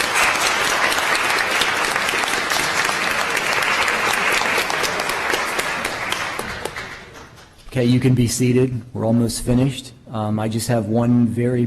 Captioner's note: applause